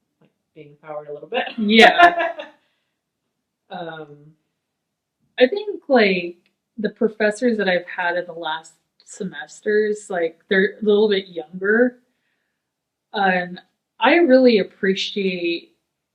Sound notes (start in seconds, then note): 1.5 laughing